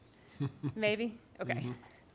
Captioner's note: laughing